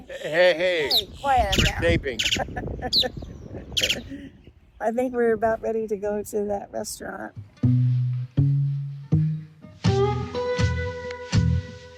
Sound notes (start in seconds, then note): 2.3 laughter